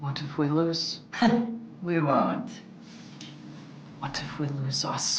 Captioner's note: scoffing